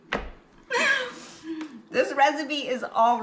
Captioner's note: laughs